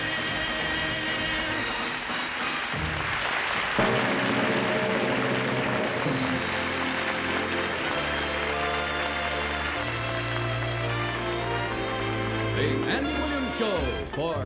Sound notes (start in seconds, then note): 1.4 audience applauding